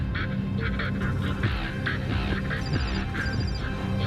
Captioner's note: phone ringing